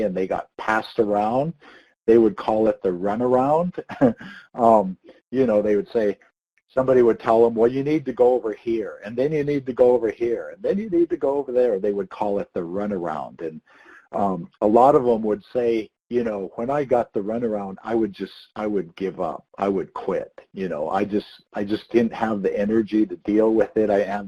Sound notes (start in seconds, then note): 3.8 laughs